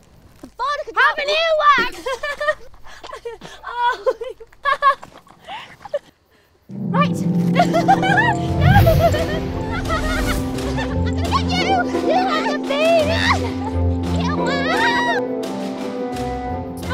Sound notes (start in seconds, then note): 2.3 Andromeda and Narcissa laughing; 7.5 laughing